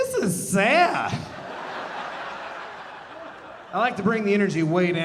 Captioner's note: audience laughing